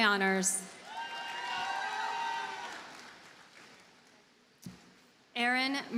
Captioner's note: audience cheers and applauds